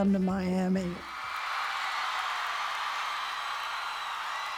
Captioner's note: cheers and applause